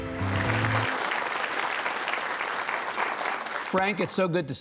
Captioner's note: audience applauding